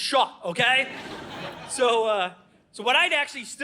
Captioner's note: audience laughing